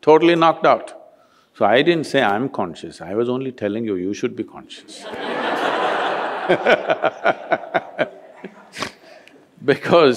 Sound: laughter

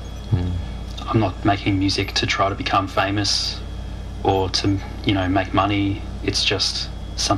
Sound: mmm

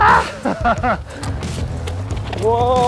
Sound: laughing

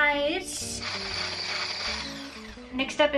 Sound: mixer whirring

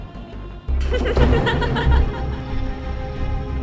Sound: ha ha ha ha

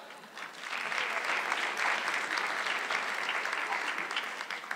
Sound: audience clapping

